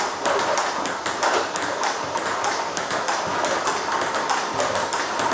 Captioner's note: ball ping pong hitting continues